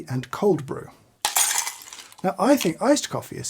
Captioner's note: ice clanks